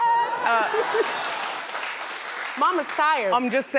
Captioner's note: audience applauds